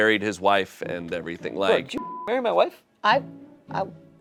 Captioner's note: beep